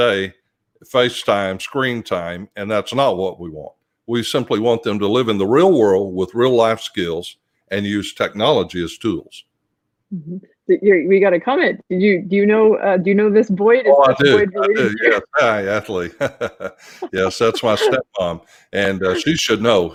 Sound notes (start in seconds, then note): 16.6 laughs